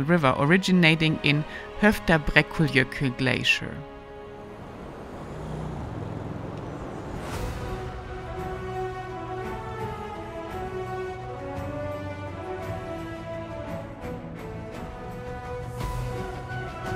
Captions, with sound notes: originating in Myrdalsjokull glacier. (wind whirring) (soft triumphant music)